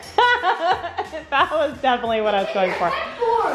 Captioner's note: laughs